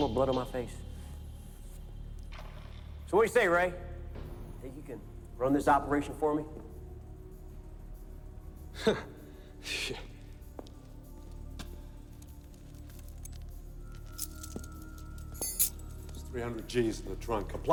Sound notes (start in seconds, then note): 9.0 laughs nervously; 14.7 keys jingle